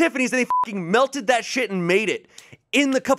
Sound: beep

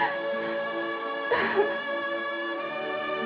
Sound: crying

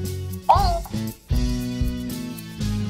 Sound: distorted Voice

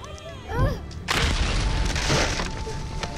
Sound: wood falling

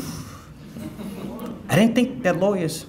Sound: audience laughing

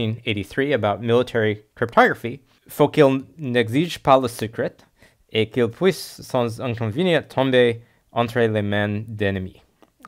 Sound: speaking French

